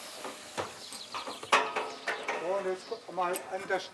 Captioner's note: clattering, fragments of conversation